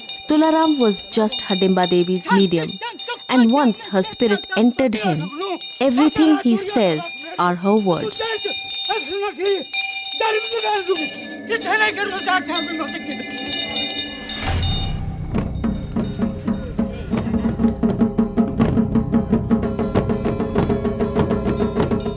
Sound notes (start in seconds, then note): 0.0 bell jingling continues; 8.7 intense bell jingling; 15.4 intense drumming